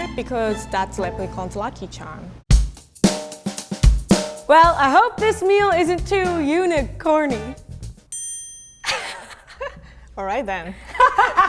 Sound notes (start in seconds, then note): 7.5 laughing; 8.1 bell rings